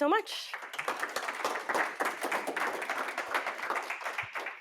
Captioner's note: applause